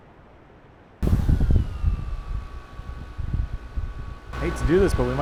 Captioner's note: drone blades spins